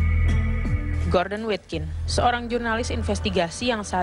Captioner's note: non-english speech